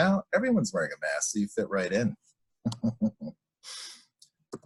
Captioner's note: laughs